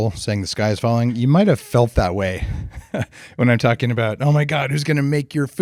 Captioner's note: laughs